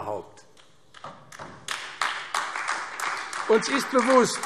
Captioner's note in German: Beifall AfD